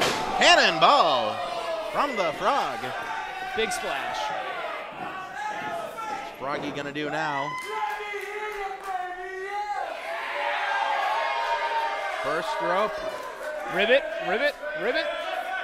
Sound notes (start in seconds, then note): 10.2 crowd cheers